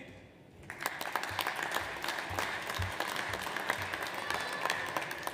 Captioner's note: audience applauds